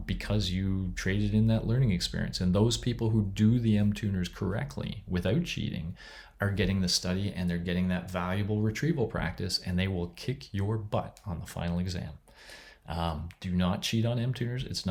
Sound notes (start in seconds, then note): none